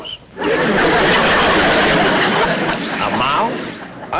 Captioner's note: audience Laughing